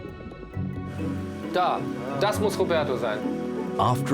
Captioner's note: speaks German